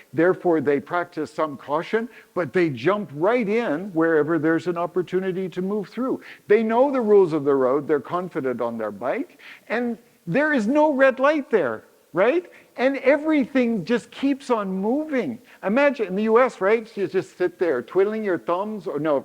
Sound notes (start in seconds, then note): none